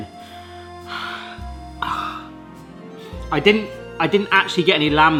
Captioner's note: breathes deeply